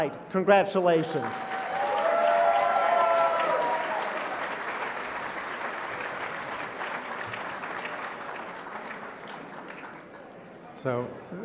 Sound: applause

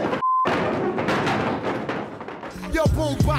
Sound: chair legs banging on the floor

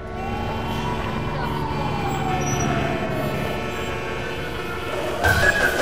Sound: traffic noise

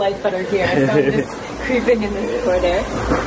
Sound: laughs

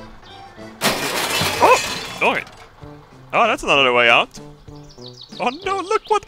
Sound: glass shattering

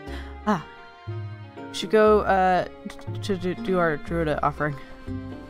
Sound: stutters

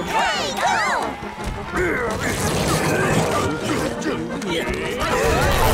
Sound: grunting

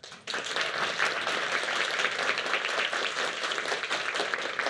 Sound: applause

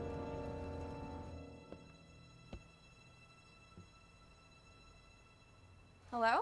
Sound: footsteps

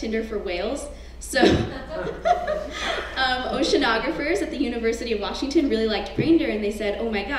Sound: laugh

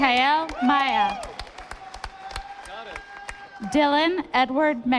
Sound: audience applauding

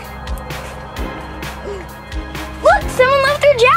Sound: gasp

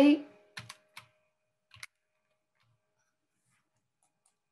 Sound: keyboard clacking

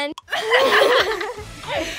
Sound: laughing

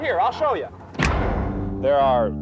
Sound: loud short bang

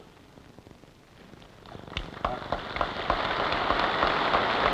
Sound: applause

